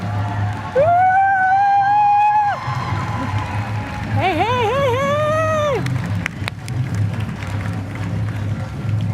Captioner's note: applause